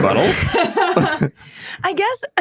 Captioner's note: laughing